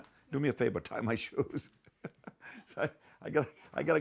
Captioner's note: chuckling